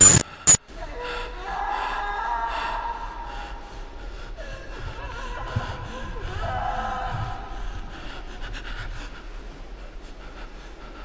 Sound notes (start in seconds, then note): 1.3 distance screaming